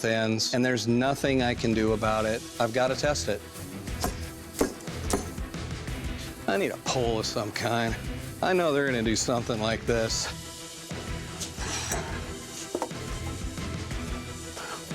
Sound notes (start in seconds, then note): 4.6 thudding